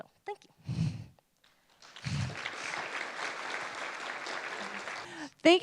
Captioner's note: applause